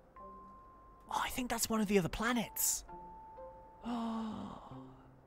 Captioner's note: gasps